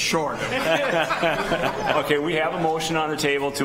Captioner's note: people laughing